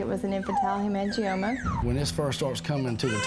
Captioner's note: baby cooing; baby crying